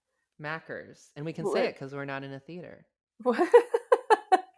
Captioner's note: laughs